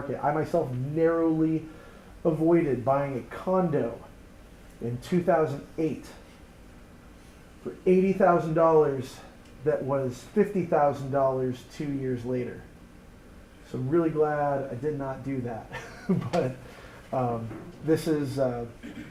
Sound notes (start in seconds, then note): 15.7 laughs